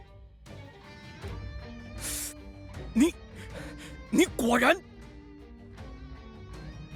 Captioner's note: hisses